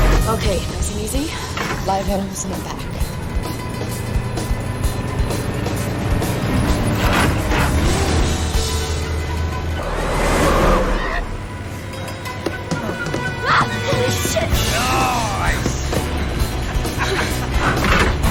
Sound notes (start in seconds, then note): 13.4 screams